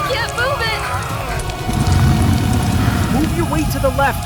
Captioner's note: car burning